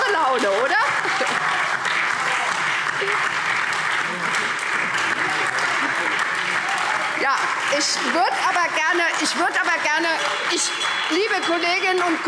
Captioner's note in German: Heiterkeit und Beifall SPD, Freie Demokraten und DIE LINKE